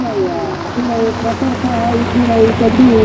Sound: speaking Somali over PA

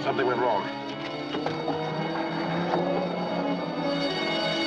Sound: alarm blares

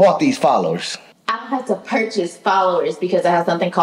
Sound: none

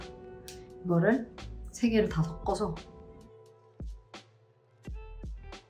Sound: speaking in Korean

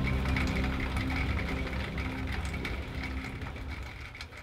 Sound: gentle rain

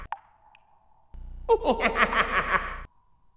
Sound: skeleton tittering

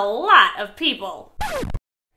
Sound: record Scratch

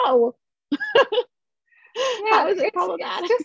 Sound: laughter

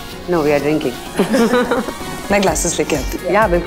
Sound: giggling

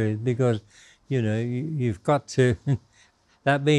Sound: laughs

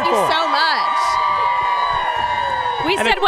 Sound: crowd cheering

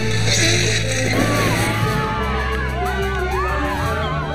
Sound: cheers and applause

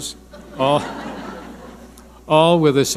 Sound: audience laughing

